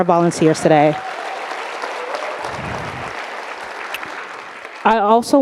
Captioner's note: audience applauding